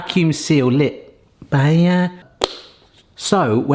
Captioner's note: stutters